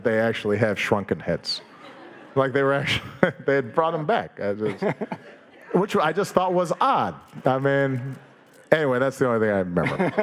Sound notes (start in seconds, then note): 4.6 Dave laughing